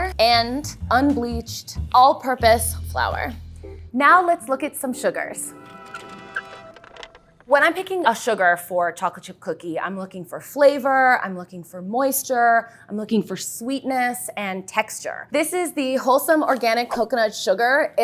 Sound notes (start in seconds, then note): 5.4 horns; 5.8 cart wheels